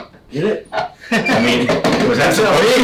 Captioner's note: laughs